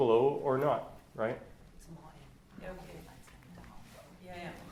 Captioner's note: background talking